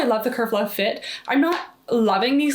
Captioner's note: waistband snapping